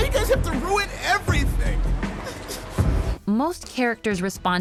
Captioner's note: yelling